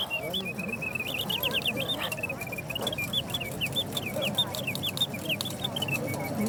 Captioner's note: mechanical birdsong